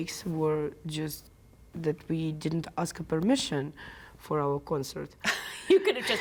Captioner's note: laughter